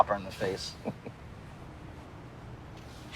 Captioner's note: chuckles